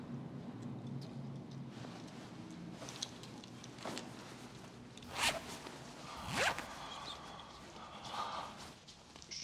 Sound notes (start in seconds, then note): 6.0 pants unzipping; 6.6 man breathing heavily